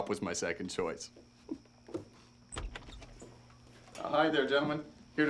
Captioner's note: door opens